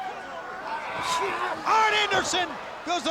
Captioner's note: wrestlers grunting; body thudding